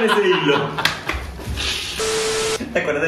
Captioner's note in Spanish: risas